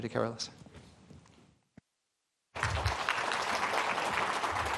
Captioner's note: applause